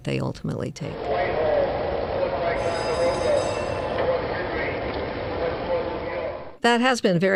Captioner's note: transportation terminal sounds